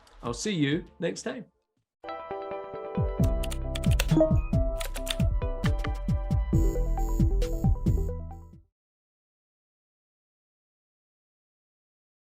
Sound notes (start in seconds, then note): 2.2 upbeat music; 3.8 keys clacking